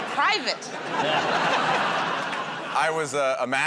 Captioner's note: laughter